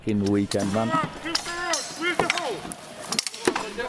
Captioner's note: man shouting